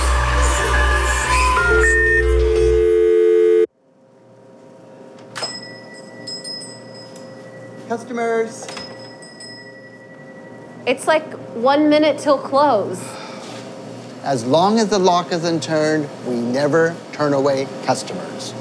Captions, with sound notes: (shop door bell rings) - Customers! - Its like, one minute til close. - As long as the lock is unturned, we never turn away customers.